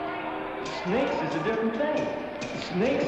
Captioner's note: Cass voiceover